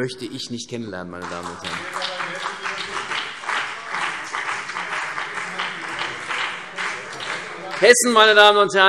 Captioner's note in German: Beifall